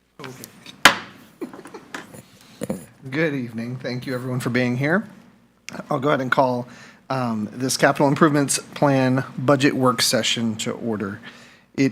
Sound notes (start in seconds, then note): 1.2 board member chuckling; 1.3 gavel clanking